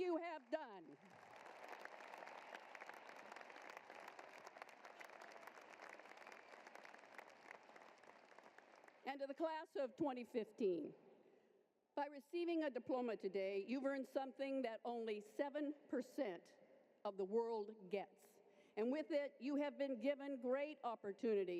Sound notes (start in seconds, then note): 4.8 applause